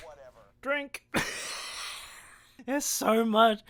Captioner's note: bursts out laughing